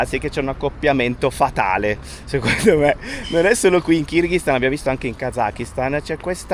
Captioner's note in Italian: risate